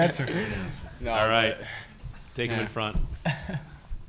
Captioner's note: laughter